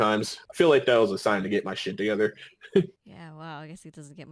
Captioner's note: laughing